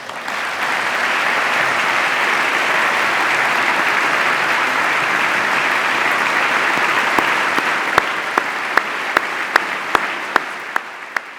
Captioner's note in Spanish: aplauso